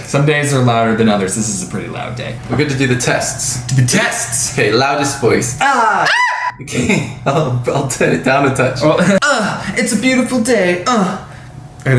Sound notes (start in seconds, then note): 5.6 laughs; 9.2 singing